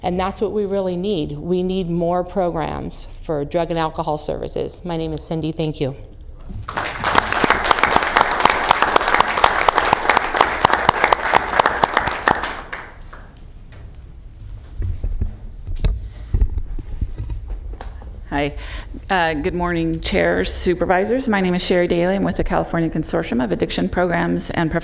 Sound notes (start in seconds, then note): 12.5 applause